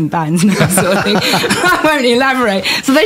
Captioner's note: laughter